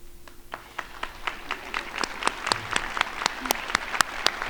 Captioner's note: crowd applauding